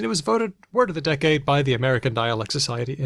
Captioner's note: none